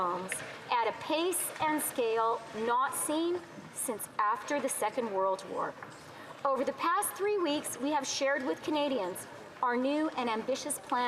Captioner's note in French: voix de l'interprète